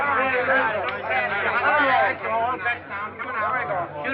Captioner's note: men shouting